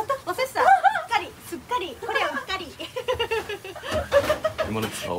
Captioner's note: laugh